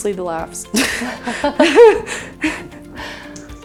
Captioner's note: both laughing